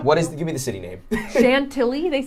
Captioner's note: laughing